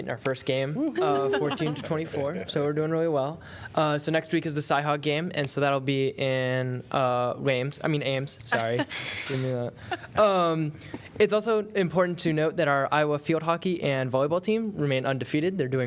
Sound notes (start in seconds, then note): 9.8 laughter